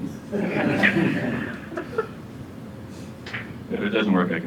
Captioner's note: audience laughs